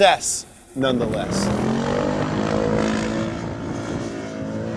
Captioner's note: engine revving